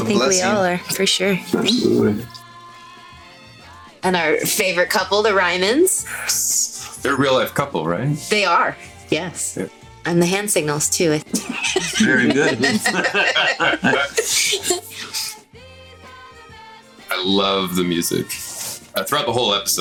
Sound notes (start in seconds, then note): 11.3 laughs; 11.4 all laughing